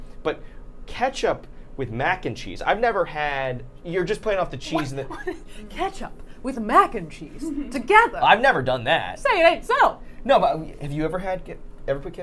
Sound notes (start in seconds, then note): 4.7 Safiya laughing